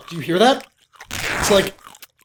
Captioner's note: ripping